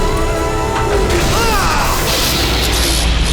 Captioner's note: groaning